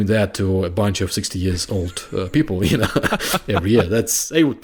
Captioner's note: chuckling